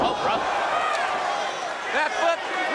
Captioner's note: crowd cheering